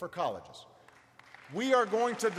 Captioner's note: applause